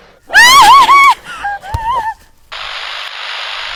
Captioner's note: Sarah screams; gasping; camera buzzing